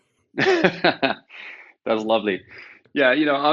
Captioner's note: laughing